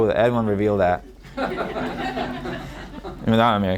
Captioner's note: audience laughing